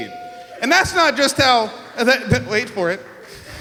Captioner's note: giggles